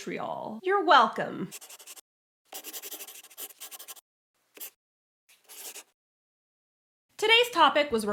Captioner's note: the sound of a pen scratching. LOGO